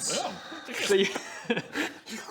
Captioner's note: slurp